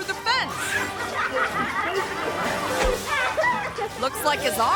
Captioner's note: onlookers laughing